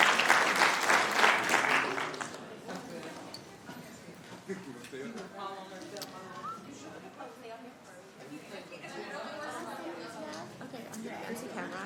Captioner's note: applauding